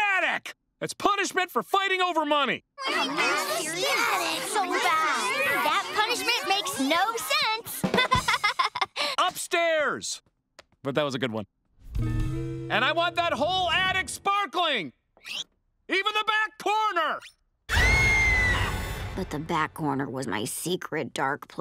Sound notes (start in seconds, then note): 2.5 complaining; 7.8 laughs